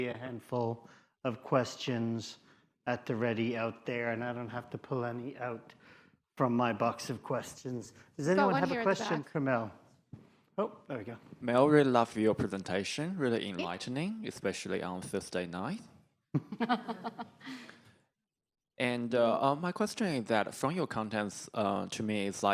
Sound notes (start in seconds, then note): 16.4 chuckling